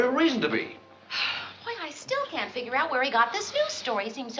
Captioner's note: sighs